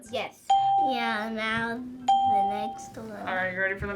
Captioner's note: ding